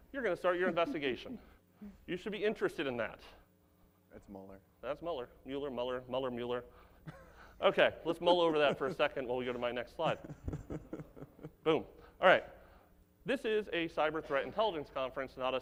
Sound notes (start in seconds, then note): 9.9 laughs